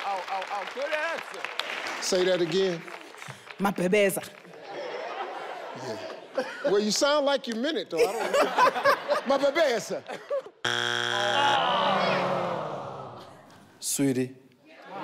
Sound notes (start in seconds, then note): 10.1 laughs; 10.6 board buzzes; 11.2 audience groans; 14.8 audience cheers